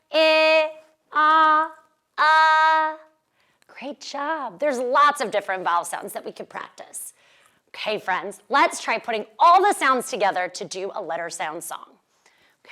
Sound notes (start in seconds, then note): none